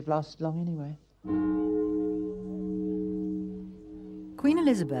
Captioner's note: bell tolling